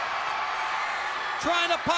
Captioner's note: crowd cheering